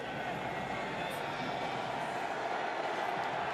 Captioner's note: crowd cheering